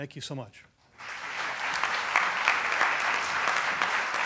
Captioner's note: applause